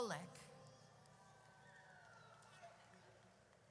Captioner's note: audience cheers